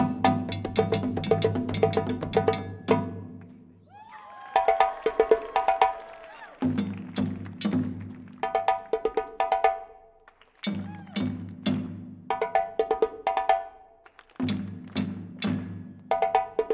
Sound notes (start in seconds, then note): 3.8 crowd cheering; 10.6 crowd claps to rhythm